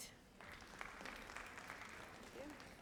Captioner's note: audience applauds